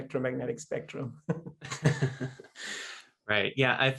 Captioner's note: laughs